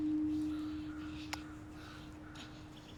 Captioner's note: none